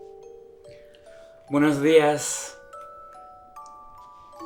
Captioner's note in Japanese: スペイン語